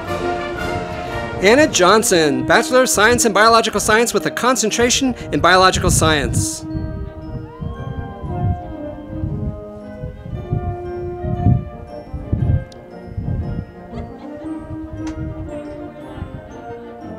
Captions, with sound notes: Anna Johnson, Bachelor of Science in Biological Science with a Concentration in Biological Science. (audience applauding)